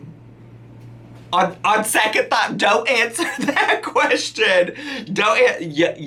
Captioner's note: laughing